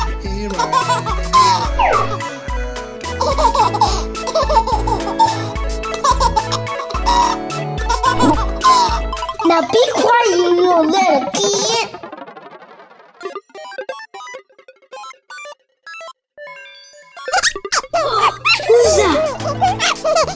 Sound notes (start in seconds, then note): 4.7 baby laughing; 13.2 video game music